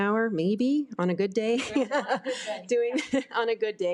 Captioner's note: laughing